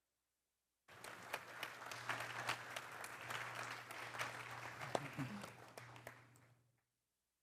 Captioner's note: applause